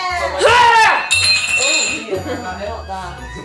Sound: glass breaks

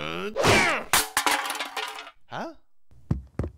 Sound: paint can clatters across the ground

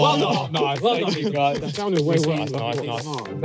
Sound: all clapping

